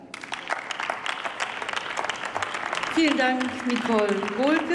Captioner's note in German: Applaus